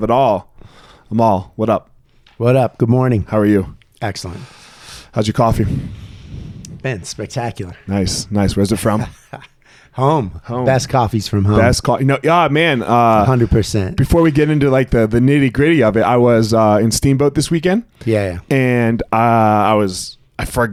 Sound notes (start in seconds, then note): 9.2 laughing